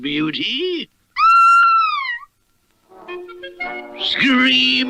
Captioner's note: Sweet Polly Purebred Screams